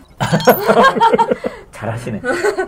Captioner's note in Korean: 웃음